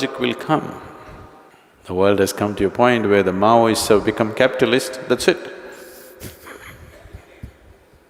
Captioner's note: laughs